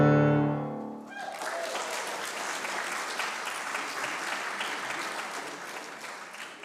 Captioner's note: congregation cheering and clapping